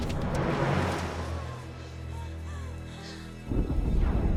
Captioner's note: panting